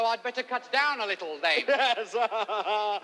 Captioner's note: laughing